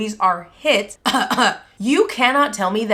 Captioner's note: cough cough